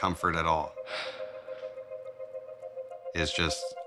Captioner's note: sighs